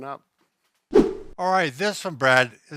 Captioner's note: whoosh